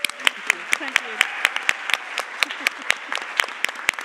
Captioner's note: Aplodit